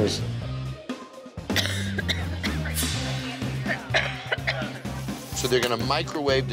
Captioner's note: coughs